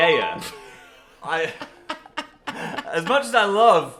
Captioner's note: both laughing